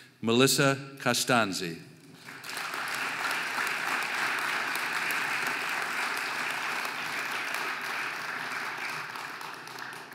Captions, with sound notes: Melissa Costanzi (audience applauding)